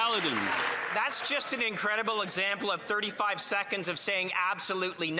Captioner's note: applause